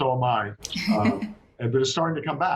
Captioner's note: laughs